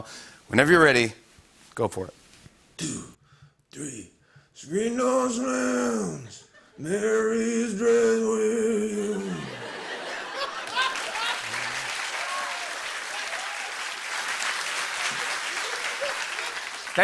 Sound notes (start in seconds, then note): 8.9 laughter; 10.2 cheers and applause